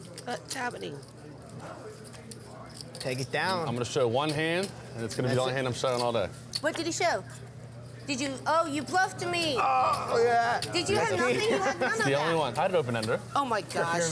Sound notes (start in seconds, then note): 9.5 exclaiming discontent; 9.5 laughing